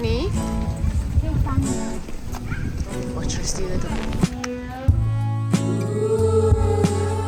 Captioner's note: speaking German; background music